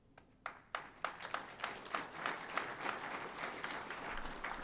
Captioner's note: audience applauding